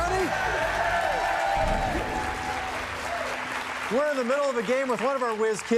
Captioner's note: cheers and applause